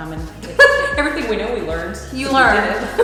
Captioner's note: laughs